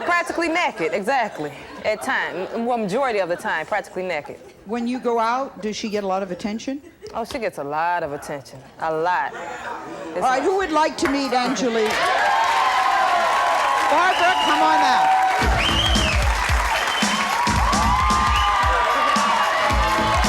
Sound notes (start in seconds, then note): 16.0 audience cheers; 17.6 sleazy music